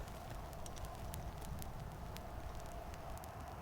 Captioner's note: booms